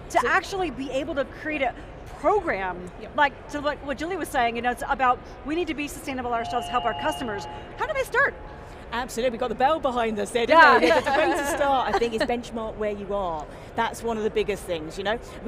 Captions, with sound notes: to actually be able to create a program? Like what Julie was saying, it's about we need to be sustainable ourselves, help our customers, (bell ringing) how do they start? >> Absolutely. We got the bell behind us. >> Yeah. (laughs) >> A great to start. I think it's benchmark where you are. That's one of the biggest things.